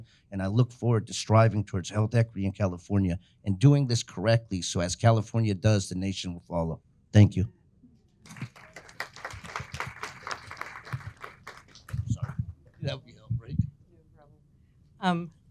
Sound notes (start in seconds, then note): 8.2 audience applauding